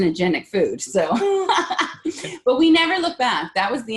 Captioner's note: laughing